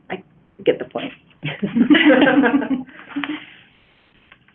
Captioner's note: chuckling